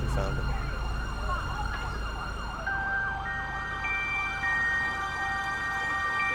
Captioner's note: siren howling